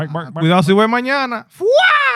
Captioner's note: speaking In Foreign Language